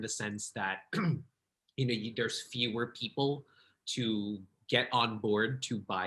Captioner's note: throat clearing